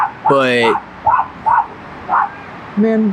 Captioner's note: dog barks